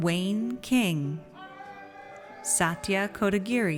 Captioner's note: audience cheers